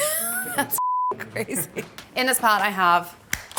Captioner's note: laughs